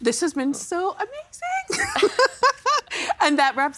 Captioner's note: laughing